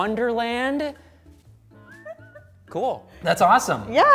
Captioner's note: laughs